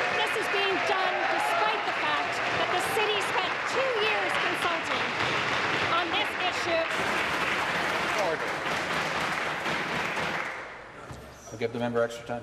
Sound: applause

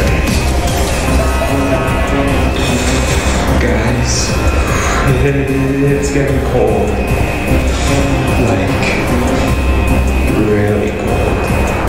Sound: announcement Chime

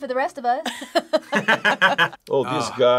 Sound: both laugh

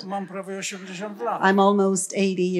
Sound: foreign language

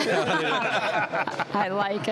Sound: laughing

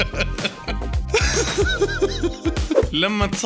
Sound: laughter; another laughter

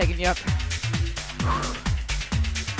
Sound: exhales; energetic music

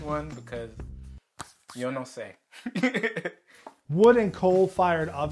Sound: laughs

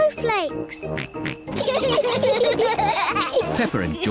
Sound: snorts; both giggle

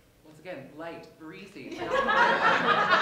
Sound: laughter

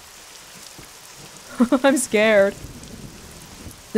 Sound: chuckles

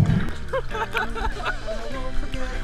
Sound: laughing

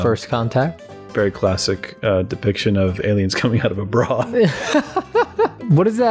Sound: laughter

